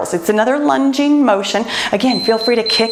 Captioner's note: timer beeps